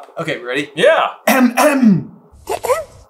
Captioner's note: clears throat